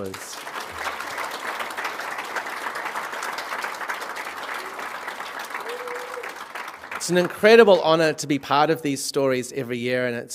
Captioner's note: applause